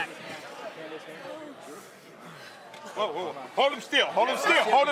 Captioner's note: crowd chatter